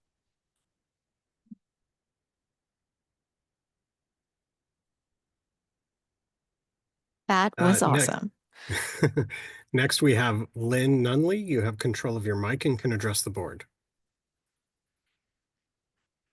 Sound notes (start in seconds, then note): 3.2 applause